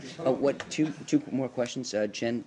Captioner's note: laughter